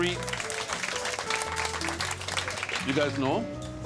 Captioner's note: players applauding